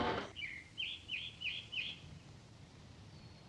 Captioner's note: birds chirping